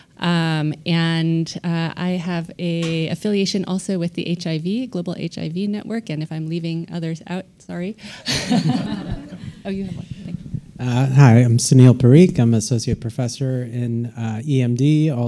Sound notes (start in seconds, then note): 8.2 all laughing